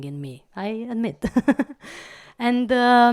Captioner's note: laugh